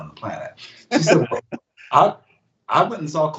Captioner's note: laughs